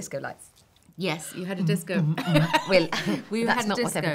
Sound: humming dance music

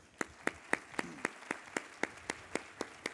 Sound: applause

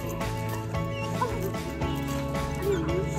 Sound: dog whines

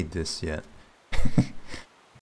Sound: laughs

